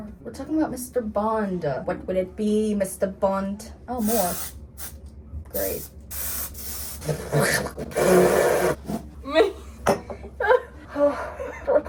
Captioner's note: sprays hairspray